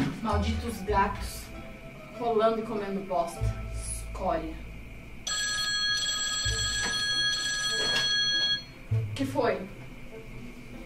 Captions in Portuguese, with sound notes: Malditos gatos... rolando e comendo bosta. Escória! (Telefone toca) Que foi?!